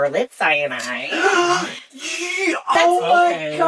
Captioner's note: gay gasp! Trouble speaking